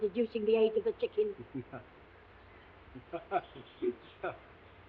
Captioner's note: Watson chuckling